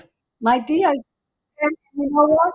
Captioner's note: faintly speaking